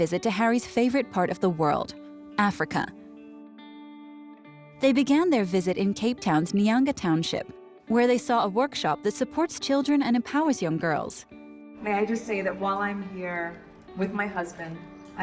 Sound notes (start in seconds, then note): none